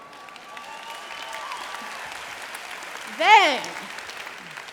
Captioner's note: applause